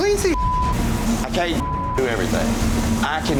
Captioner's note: beep